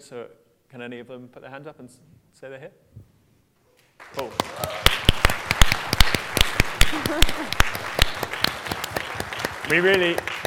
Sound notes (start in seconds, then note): 4.0 applause; 6.9 laughter